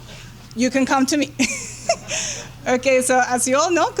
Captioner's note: laughs